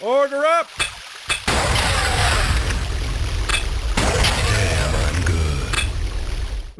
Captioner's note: explosions